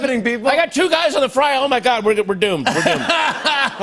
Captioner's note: laughter